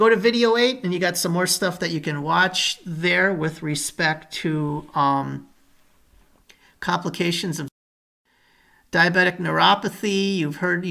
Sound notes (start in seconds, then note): 8.1 audio trails off